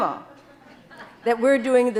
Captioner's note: audience laughing